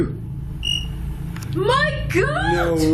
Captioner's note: device chirps